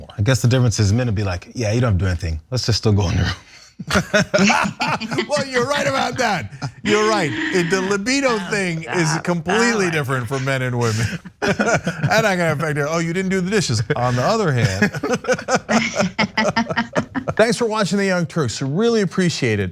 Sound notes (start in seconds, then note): 4.4 laugh; 15.7 laugh